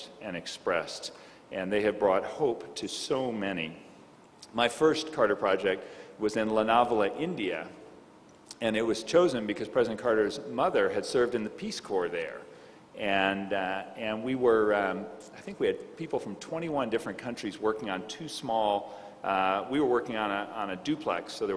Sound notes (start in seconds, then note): none